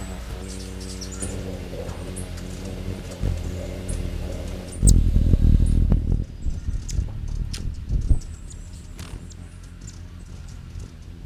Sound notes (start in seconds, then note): 0.0 bird's wing flapping; 0.0 birds chirping; 2.2 bird chirping; 2.2 bird's wing flapping